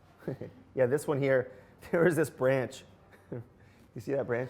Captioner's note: laughs